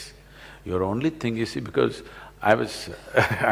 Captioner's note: laughs